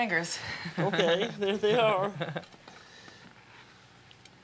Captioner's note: chuckling